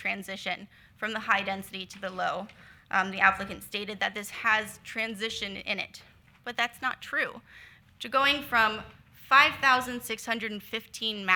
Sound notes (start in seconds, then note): none